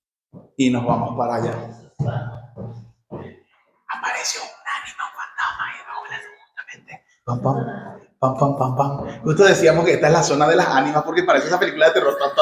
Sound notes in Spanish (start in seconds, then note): 3.6 susurrando